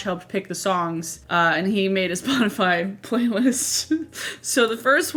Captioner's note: laughs